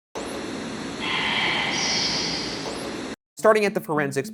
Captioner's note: voice whispers